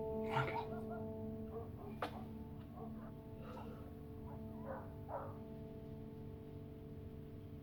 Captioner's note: dogs barking